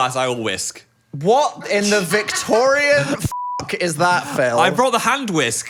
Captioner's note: beep